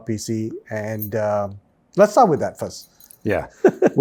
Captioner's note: laughs